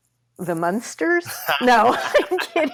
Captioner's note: laughs